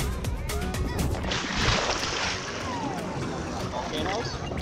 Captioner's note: water splash